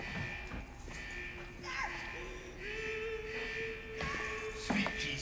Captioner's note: distant moaning, yelling